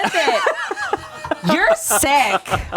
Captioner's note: laughs